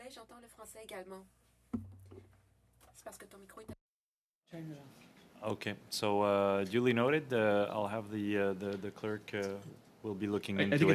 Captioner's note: speaking French